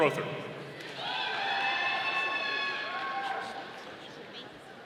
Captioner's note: audience applauding